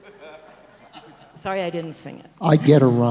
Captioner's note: laughing